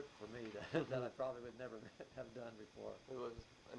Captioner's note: chuckles